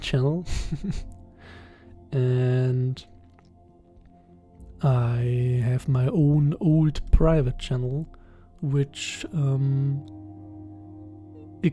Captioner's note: giggles